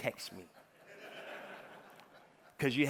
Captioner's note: audience laughing